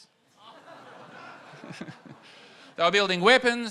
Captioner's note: audience groans and laughs